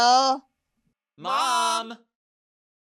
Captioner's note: crowd